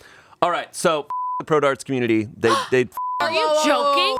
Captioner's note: beep